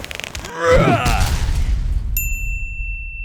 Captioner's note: man yelling; stone slamming; bell dinging